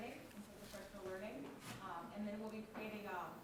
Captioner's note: speaking faintly